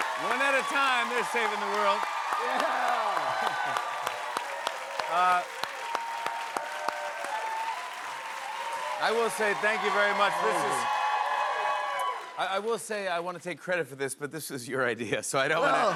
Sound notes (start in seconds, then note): 6.7 cheers and applause